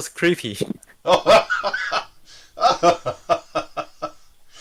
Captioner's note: laughing